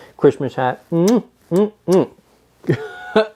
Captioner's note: kissing; laughing